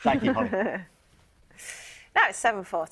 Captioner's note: laughing